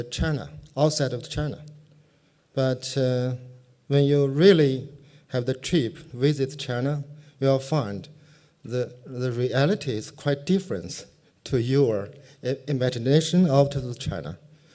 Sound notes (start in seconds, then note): none